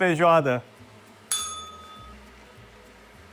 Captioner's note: bell rings